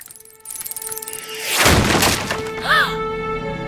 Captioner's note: gasps